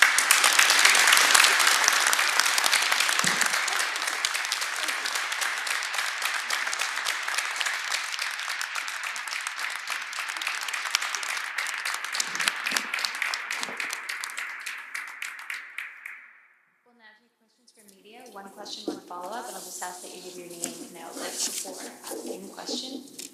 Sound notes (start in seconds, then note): 9.4 applause